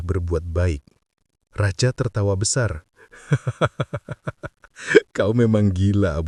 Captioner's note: laughs